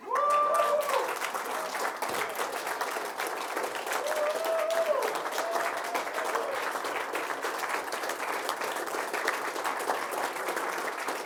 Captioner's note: applause, cheering